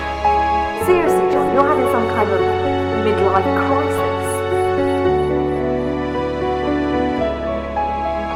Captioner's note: voice echo